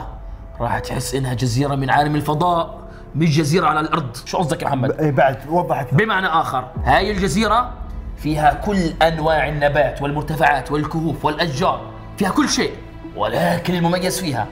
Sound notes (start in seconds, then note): none